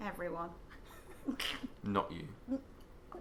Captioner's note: both snicker